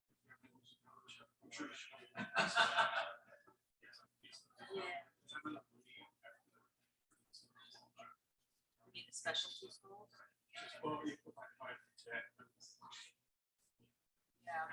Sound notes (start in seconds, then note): 2.0 man laughing; 6.6 people chattering indistinctly